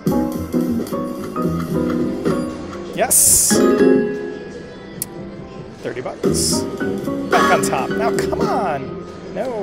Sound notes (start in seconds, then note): 3.5 bell dings